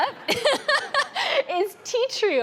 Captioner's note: laughing